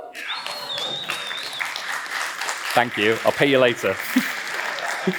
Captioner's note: applause; laughs